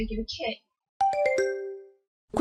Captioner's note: question ding